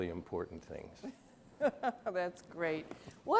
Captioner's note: laughs